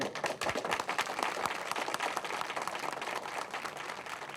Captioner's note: all clapping